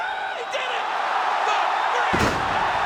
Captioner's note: crowd cheering